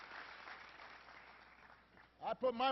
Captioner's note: applause